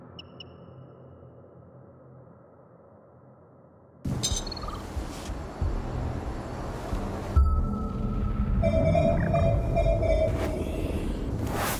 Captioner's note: electronic beeping